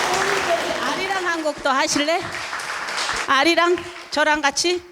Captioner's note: speaking in foreign language